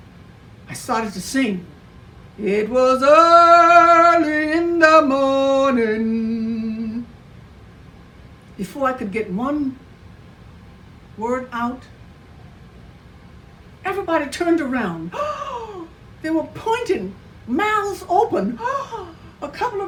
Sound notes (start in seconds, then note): 15.1 gasps; 18.6 gasps